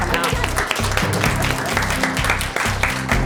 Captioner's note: applause